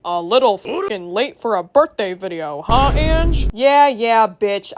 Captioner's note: mocking Tone of Voice